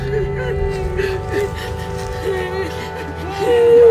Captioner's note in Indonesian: suara tangisan